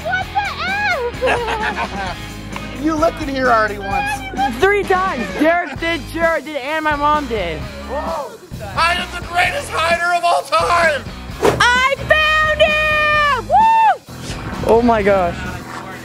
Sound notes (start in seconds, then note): 0.8 laughing